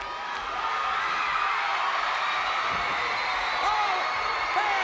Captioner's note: crowd cheers